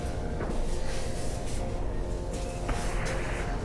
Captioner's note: none